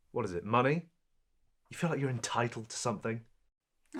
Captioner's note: none